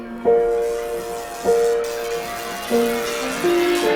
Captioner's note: electricity crackling